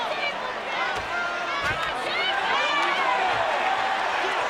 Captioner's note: audience cheering